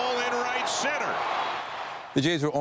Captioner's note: applause